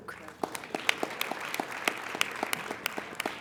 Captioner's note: applauding